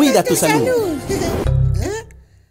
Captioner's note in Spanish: Sonido Error